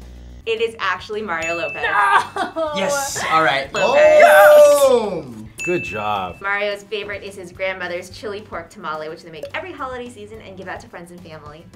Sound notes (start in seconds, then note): 5.5 ding